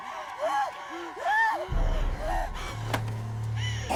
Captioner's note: heavy breathing